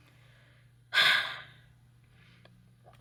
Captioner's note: Hades sighs